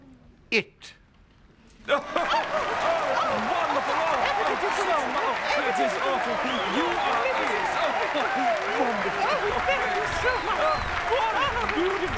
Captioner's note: cheering and applause